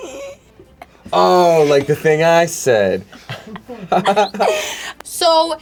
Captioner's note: chuckles